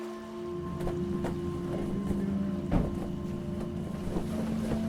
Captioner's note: boat engine, flag flapping